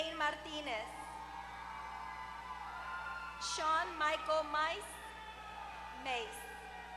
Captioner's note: applause